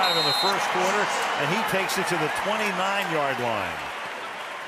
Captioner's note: pa announcement